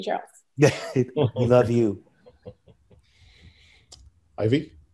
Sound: laughs

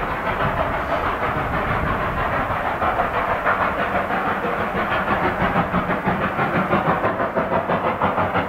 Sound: spirited chugging

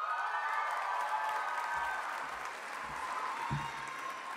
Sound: audience applauding

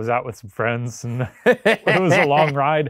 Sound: laughing

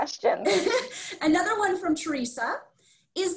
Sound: laughs

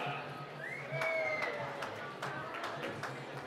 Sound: whistling

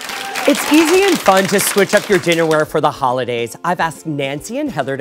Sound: applause

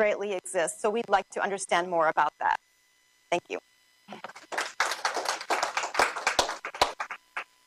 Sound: applause

